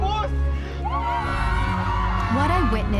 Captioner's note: cheering